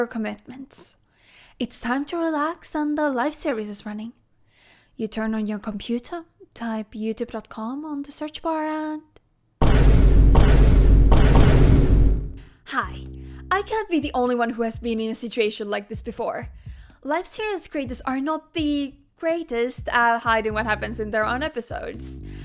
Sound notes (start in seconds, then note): 9.6 Vine Boom